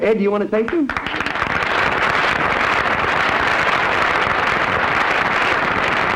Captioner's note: applause